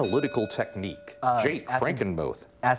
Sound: bell ringing

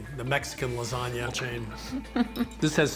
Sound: laughs

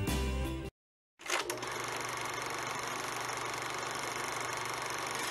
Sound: film projector rolling

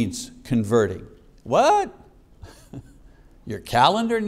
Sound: chuckles

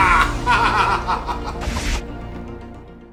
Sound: laughing

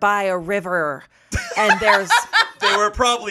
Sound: laughs

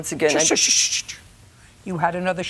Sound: shushing

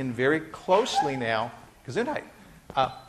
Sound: student sneezes

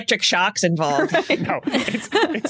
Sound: giggles; chuckles

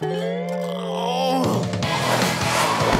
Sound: groaning

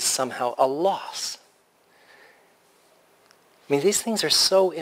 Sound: pause

